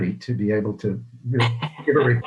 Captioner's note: chuckles